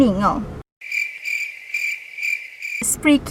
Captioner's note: cricket sounds